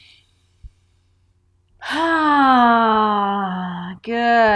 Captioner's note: sighs audibly